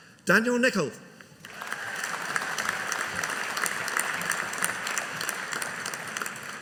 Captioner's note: audience applauding